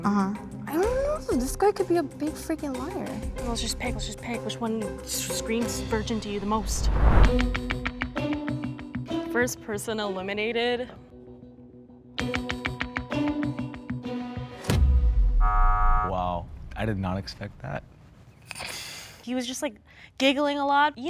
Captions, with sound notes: - I dunno, this guy could be a big freaking liar. - Well, let's just pick, let's just pick which one screams virgin to you the most? (suspenseful music) The first person eliminated... (buzzer) - Wow. I did not expect that. - He was just like giggling a lot.